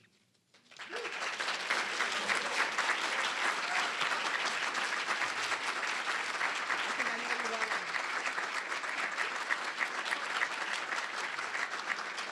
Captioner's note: applause